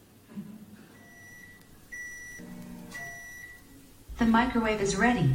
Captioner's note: microwave beeping